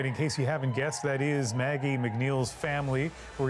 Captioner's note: cheers and Applause